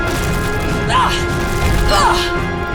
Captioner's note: grunting